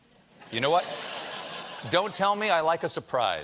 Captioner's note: laughter